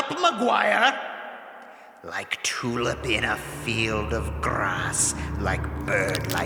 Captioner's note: back to chanting